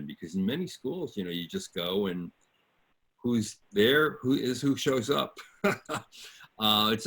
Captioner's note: laughs